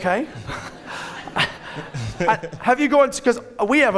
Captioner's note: audience laughing